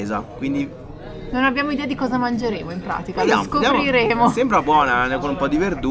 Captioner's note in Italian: risate